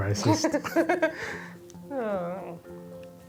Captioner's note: laughter